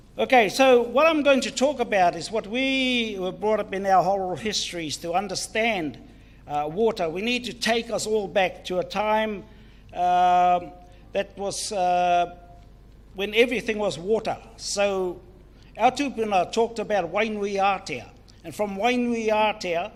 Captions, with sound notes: Okay, so what I'm going to talk about is what we were brought up in our oral histories to understand water. We need to take us all back to a time that was, when everything was water so (speaks in foreign language).